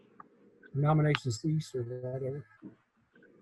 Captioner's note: speaks faintly